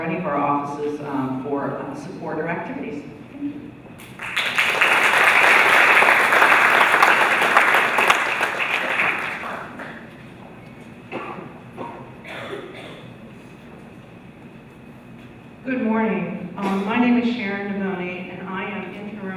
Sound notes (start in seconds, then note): 4.0 applause